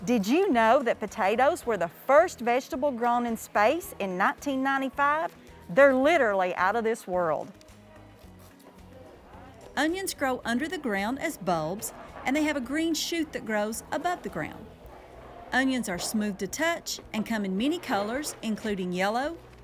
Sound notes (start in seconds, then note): 7.5 upbeat instrumental music; 8.8 people chattering